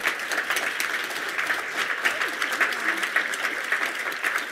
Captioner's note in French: Applaudissements